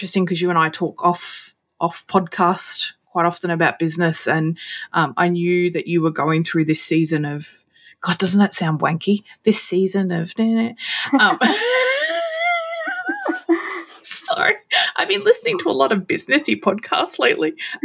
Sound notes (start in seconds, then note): 10.4 humming; 11.0 both laughing